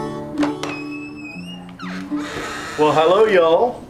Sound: door creaking

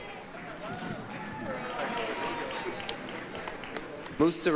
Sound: applause

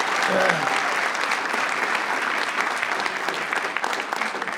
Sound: audience applauding

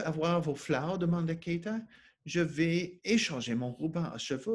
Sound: speaking French

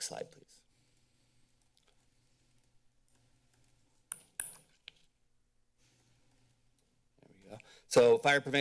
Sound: rustling sounds

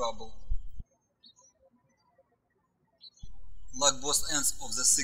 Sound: birds chirping

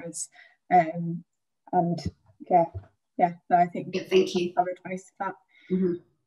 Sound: speaking faintly

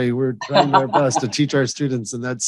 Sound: Ambassador Hills laughing

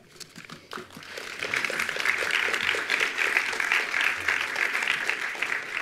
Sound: attendees applauding

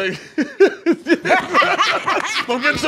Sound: laughter

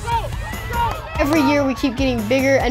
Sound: people shouting

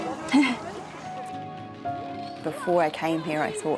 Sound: she laughs

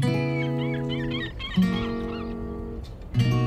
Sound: soft music; birds squawking; soft music

